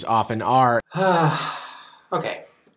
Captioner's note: Shane sighs